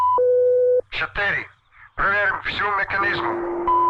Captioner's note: soldier speaking in Russian; machinery whirring and beeping